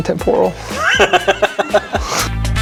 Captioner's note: laughter